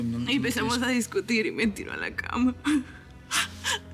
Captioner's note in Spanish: Sollozos